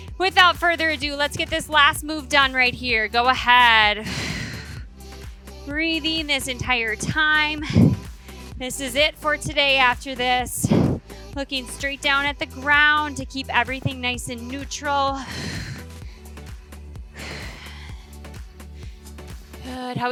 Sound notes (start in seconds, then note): 15.2 exhales; 15.9 upbeat music continues